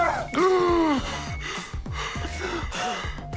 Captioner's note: gasps